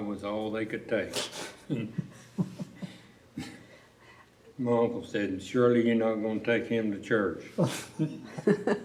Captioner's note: laughter